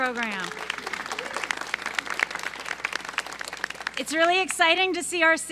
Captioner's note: applause